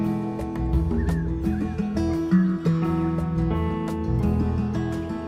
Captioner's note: birdsong